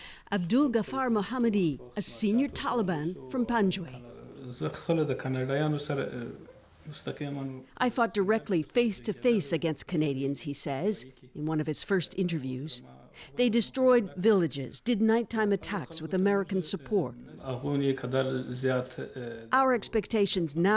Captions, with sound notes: JUST DAYS BEFORE WE MET THE NEW POLICE CHIEF, A SENIOR TALIBAN FROM PANJWAII. (Speaking Foreign Language). >> Reporter:I FOUGHT DIRECTLY FACE-TO-FACE AGAINST CANADIANS," HE SAYS, IN HIS ONE OF HIS FIRST INTERVIEWS. "THEY DESTROYED VILLAGES AND DID